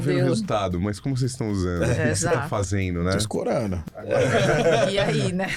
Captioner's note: laughs